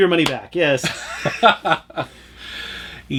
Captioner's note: laughter